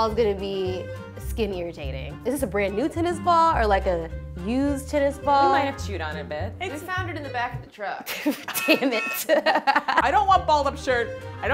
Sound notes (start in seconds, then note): 8.1 truck honks; 8.1 laughs